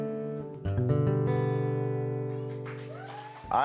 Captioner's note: cheers & applause